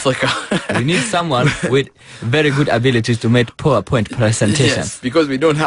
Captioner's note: speaking African English